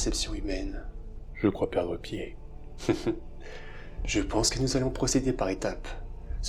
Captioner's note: laughing